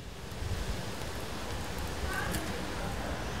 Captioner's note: hissing, distant voices